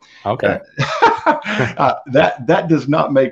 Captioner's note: laughing